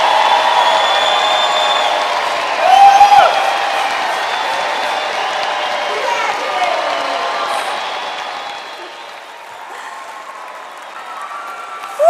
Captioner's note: cheering and applause